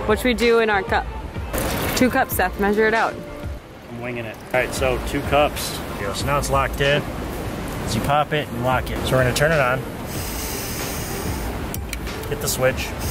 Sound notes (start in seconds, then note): 10.0 gas hissing; 11.7 switch clicks